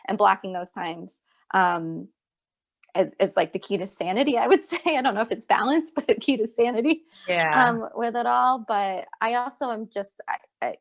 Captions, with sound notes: So finding those times and blocking those times, it is the key to sanity I would say. (Laughs) I would not say it is bounce, but the key to sanity.